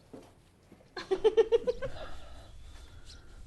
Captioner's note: laughter